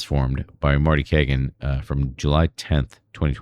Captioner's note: uh